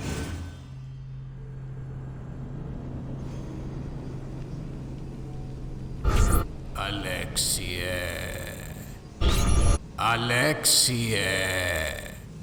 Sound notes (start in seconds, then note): 6.0 future sounds; 9.2 future sounds